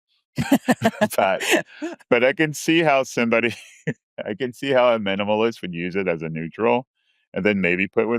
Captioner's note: laughs